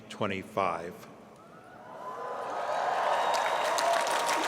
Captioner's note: cheering